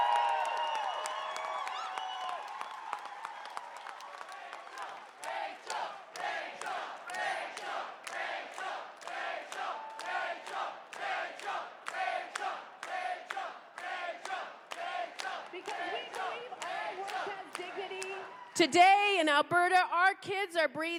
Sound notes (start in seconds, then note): 10.1 chanting rachel